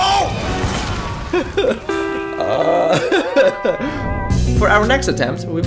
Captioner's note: anguished laughter